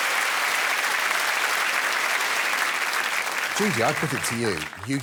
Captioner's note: applause